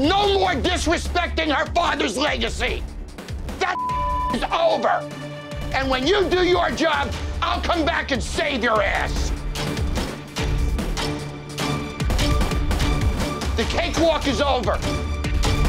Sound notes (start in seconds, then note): 3.7 beeping